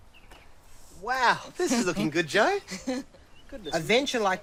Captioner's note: laughs